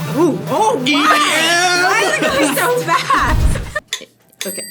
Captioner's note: upbeat music; laughs